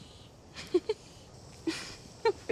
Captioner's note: laughs